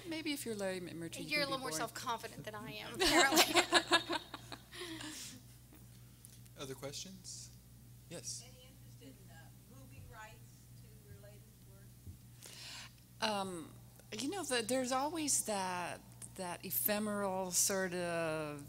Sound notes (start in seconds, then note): 3.0 everyone laughing